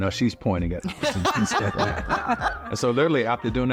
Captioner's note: laughter